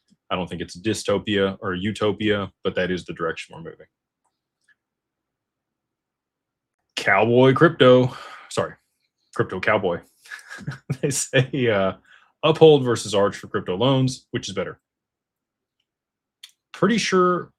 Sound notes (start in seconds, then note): 10.3 laughter